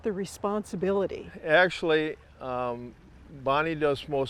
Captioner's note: water trickling